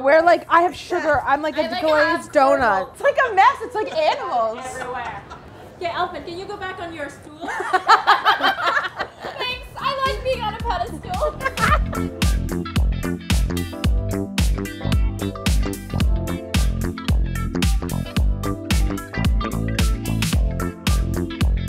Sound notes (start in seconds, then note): 3.6 laughing; 7.4 laughing; 11.6 upbeat music